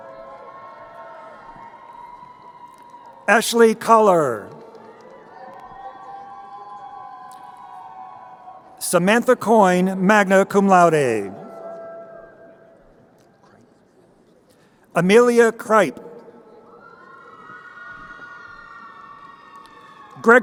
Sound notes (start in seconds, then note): 0.1 crowd cheering; 5.5 crowd cheering; 17.4 crowd cheering